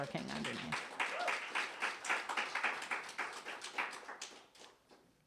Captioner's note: audience applauding